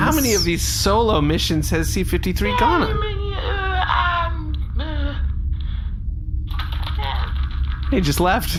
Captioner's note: mumbling and skittering